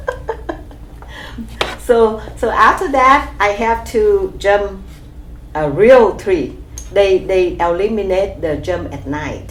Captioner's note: laughs